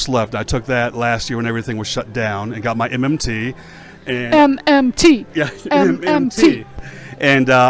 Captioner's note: laughs; chanting